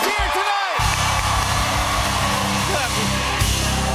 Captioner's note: cheers and applause